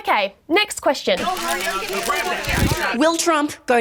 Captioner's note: journalists clamour, cameras click